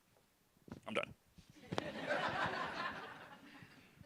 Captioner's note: laughter